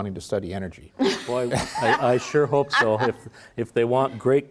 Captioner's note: laughs